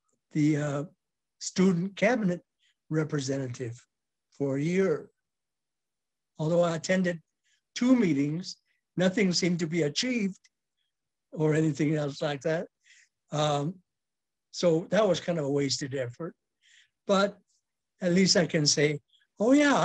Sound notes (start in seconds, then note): none